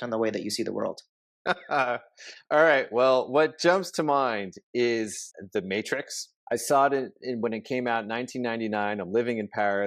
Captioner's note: laughs